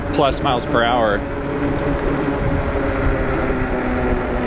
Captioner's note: wheels whirring